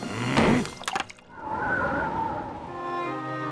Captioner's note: grunts